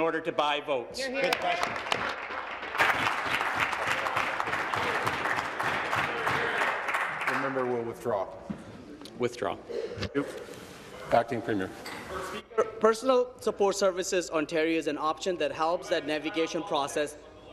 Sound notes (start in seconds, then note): 3.6 applause